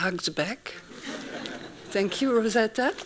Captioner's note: laughing